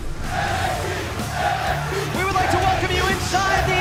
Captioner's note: fans chanting